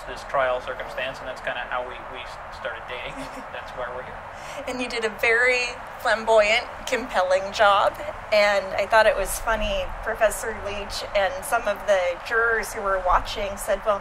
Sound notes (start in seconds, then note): 3.0 laughs